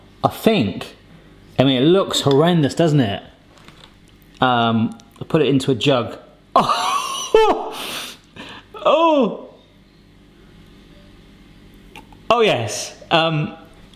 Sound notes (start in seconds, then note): 6.6 laughing; 8.7 groaning